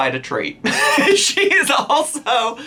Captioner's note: laughs